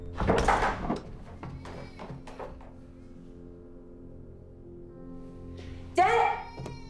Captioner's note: baby crying